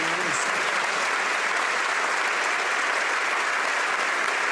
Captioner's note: applause